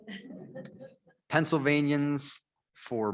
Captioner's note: members laughing